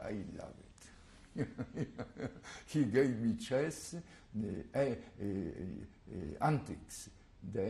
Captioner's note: laugh